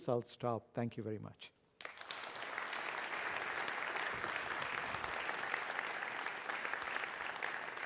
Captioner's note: applause